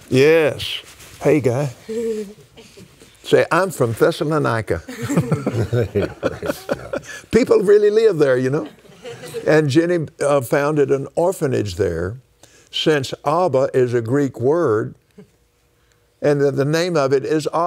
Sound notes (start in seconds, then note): 7.5 laughs